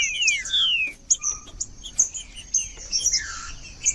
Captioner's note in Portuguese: trinca ferro cantando